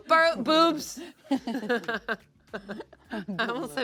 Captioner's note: laugh